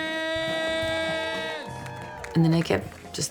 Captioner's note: audience cheering